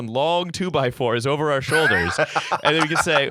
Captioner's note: laughter